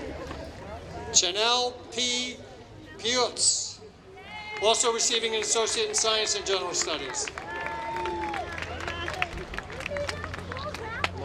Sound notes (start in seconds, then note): 9.3 applause